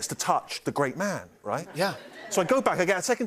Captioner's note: laughter